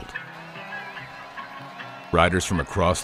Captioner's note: all cheering